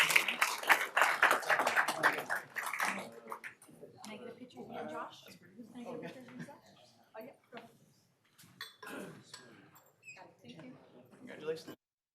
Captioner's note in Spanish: aplausos